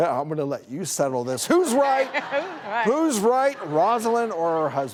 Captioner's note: audience laughing